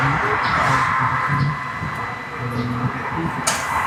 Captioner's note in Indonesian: berteriak